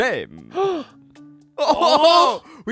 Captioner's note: gasps